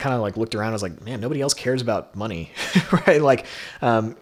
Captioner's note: laughs